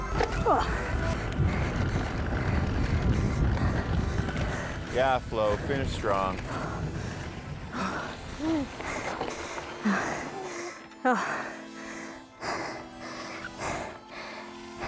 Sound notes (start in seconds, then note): 0.1 upbeat music; 8.5 breathing heavily